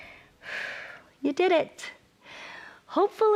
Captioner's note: exhales